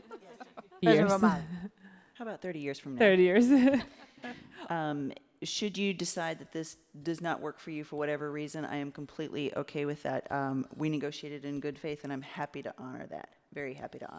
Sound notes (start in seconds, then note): 0.0 laughter; 5.2 laughs